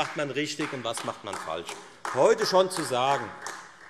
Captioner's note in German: Beifall AfD